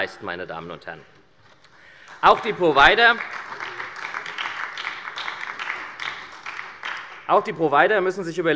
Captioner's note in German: Beifall bei der SPD